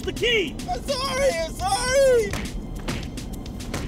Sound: thuds

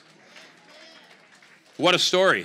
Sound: congregation applaud

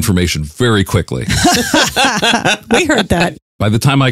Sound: laughing

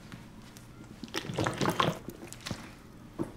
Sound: gulping water

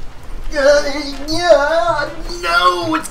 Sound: struggling noises

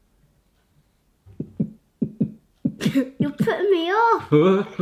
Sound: making lub dub sound

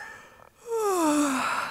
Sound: yawn

